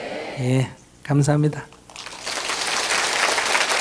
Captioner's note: audience applause